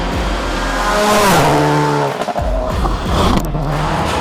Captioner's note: engine revving